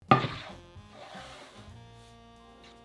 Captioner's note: board sliding